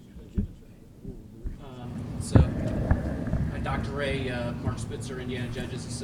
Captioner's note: off mic